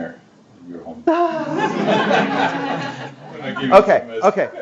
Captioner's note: laughter